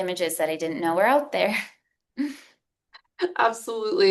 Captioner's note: chuckles